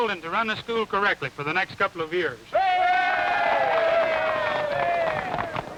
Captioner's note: audience cheering